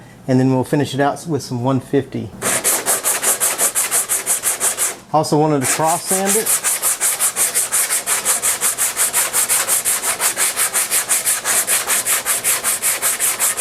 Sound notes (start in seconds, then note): 5.6 sanding block scraping loudly